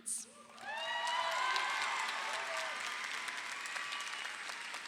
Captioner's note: audience applauding